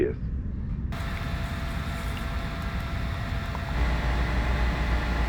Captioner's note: machine running